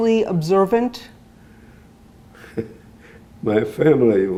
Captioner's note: laughing